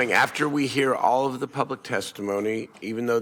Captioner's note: applause